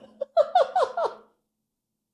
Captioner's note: laughter